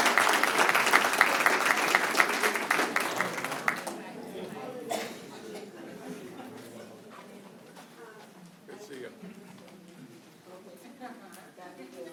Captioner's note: applause